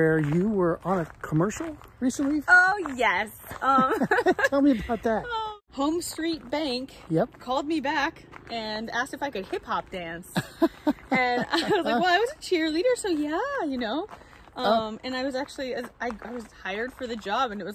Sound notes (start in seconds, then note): 3.6 laughs